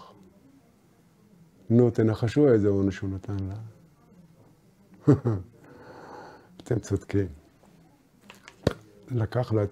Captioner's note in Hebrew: צוחק